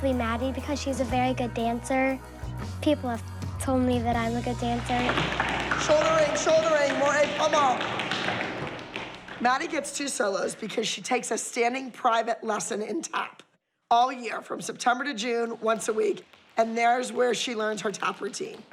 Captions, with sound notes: because she's a very good dancer. People have told me that I'm a good dancer. Shouldering, shouldering. More [french]. Maddie gets two solos because she takes a standing private lesson in tap, all year from September to June, once a week, and there's where she learns her tap routine.